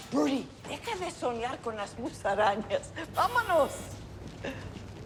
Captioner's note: speaking in Spanish